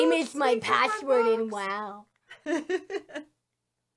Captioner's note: laughs